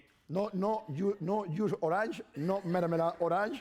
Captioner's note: speaking spanish